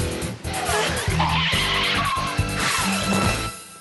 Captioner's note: screech!